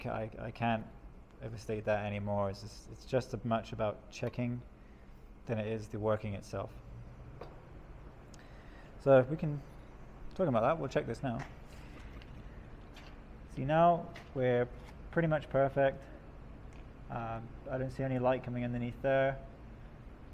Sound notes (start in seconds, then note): none